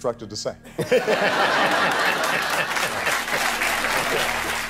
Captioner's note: audience laughter